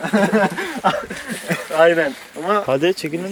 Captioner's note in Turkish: Gülüyor